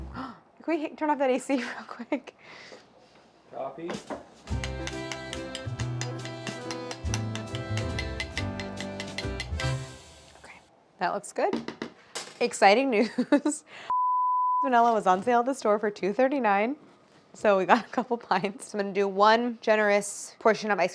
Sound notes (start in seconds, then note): 0.2 gasps; 2.1 laughs; 4.5 cheery music; 13.3 laughing; 13.9 beep